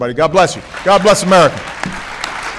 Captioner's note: applause